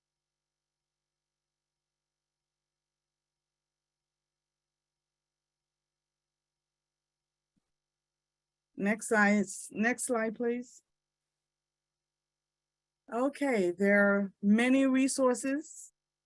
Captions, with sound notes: (silence continues) Next slide, please. Okay, there are many resources.